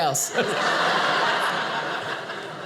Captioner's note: audience laughing